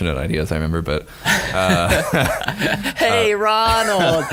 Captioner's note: laughing